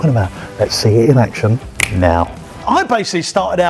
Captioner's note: snaps